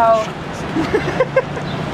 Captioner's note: laughter